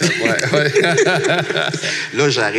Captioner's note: laughs